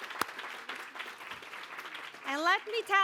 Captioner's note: applause